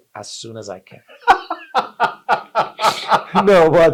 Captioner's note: both laugh